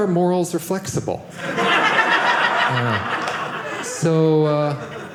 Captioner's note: audience laughing